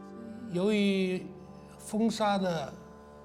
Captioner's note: speaking Chinese